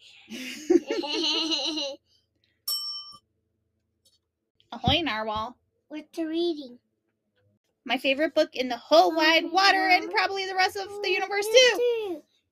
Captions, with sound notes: (laughs and giggles) (bell dings) Ahoy, Narwhal. What you reading? My favorite book in the whole wide water and probably the rest of the universe too!